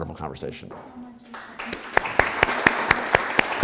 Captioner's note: applause